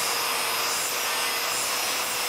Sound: machine noise

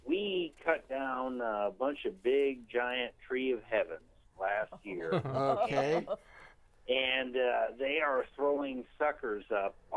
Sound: all laughing

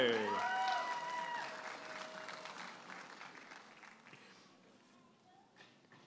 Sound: audience applauding and cheering

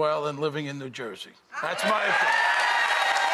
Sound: cheers

